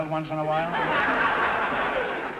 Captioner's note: audience laughter